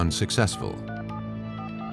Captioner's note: dialing phone